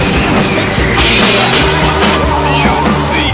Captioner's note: crash!